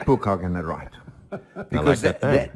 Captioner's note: laugh